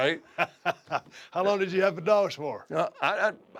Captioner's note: laugh